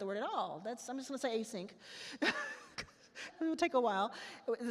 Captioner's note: laughs